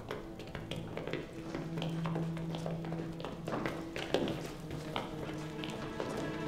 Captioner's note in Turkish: Ayak sesleri